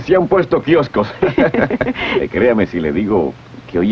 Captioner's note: chuckles